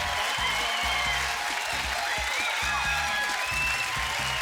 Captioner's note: cheers and applause